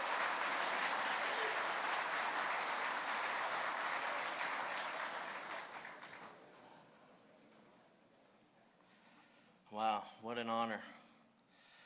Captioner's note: applause